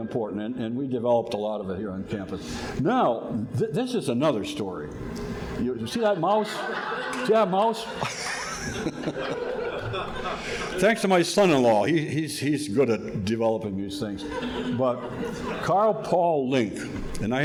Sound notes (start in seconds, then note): 10.5 laughs; 10.8 audience laughing